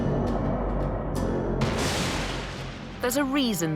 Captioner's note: thunder